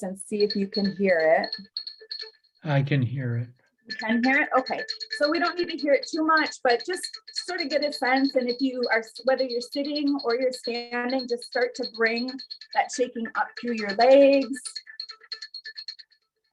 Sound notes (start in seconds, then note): 0.3 bells chiming